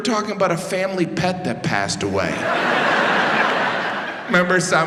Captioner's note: audience laughs